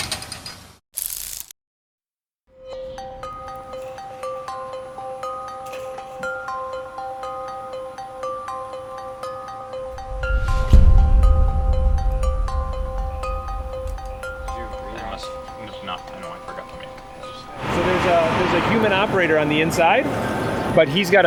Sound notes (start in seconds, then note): 15.5 background chatter